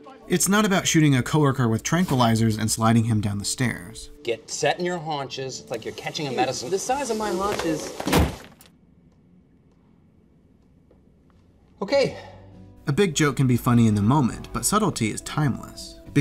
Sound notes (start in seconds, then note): 7.5 crash